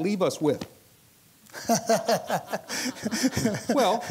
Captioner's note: laughs